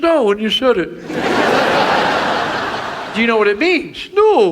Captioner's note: audience laughs